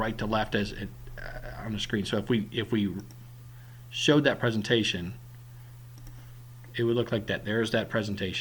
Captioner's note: click